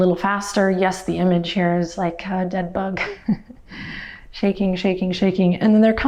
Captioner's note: laughs